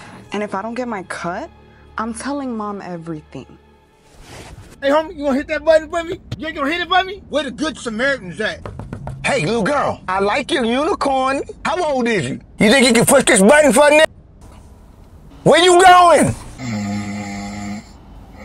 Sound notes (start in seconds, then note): 8.5 knuckle knocks; 16.5 snores